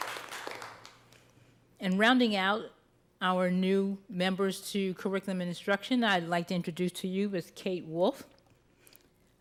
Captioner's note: applause